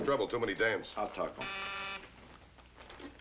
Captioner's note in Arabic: صفارة